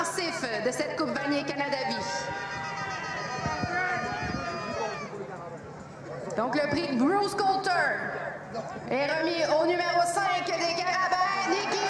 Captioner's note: repeated in frech